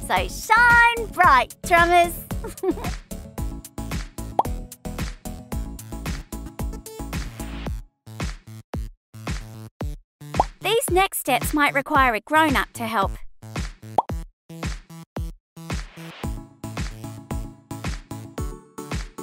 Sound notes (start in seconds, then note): 2.4 giggles; 4.2 upbeat music; 13.3 upbeat music